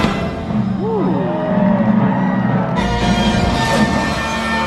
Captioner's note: audience cheering